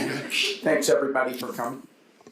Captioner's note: panelists laughing